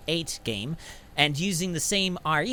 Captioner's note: inhales